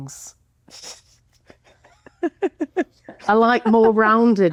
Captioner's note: laughing